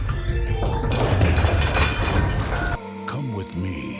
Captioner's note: antiques shattering